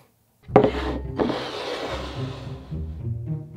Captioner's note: bowl sliding